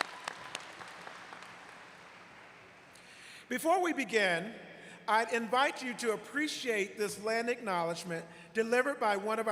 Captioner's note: applause